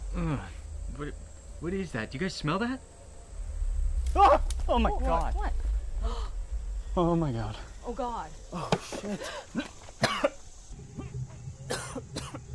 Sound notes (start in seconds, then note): 4.0 scream; 6.1 gasp; 11.6 gags/coughs